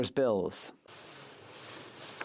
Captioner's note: speaking French